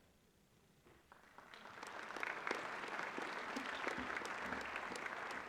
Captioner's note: applause